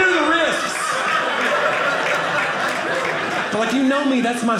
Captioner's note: audience laughing